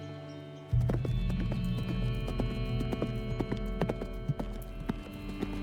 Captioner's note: hooves clopping